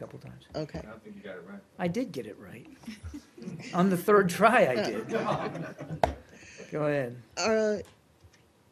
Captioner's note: laughter